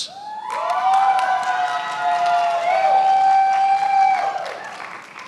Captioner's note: attendees applauding